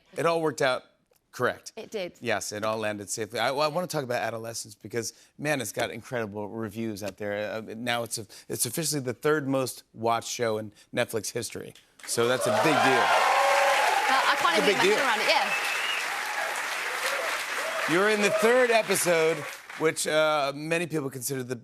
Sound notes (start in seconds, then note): 13.1 cheers and applause